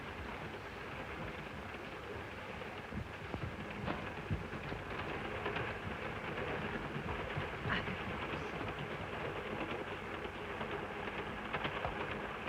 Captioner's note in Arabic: صوت خشخشة القطار